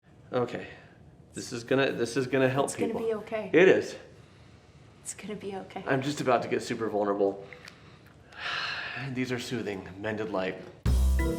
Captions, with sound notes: - Okay. This is gonna help people. - It's gonna be okay. - It is. - It's gonna be okay. - I'm just about to get super vulnerable. (sighs) And these are soothing, Mended Light.